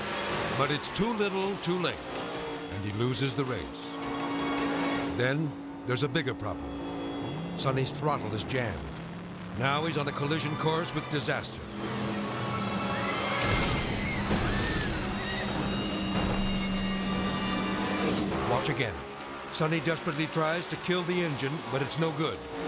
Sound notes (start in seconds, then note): 11.7 boat engine roaring; 11.7 spectators screaming